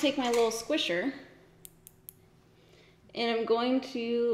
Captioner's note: tweezers tapping